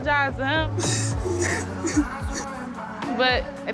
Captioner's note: sobbing